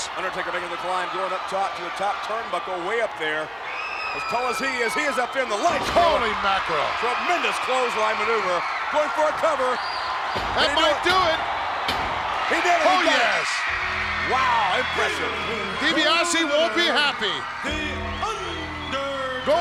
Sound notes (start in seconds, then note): 10.5 referee smacking mat; 13.1 audience screaming